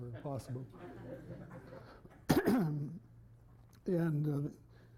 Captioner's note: laughter